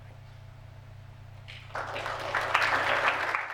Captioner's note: applause